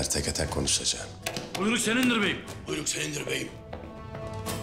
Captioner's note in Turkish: Hep bir ağızdan